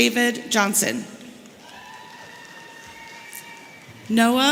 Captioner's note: audience cheering